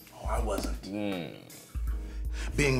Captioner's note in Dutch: Drew kreunt